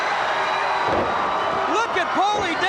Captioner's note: audience cheers